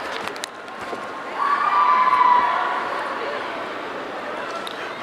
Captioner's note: audience cheering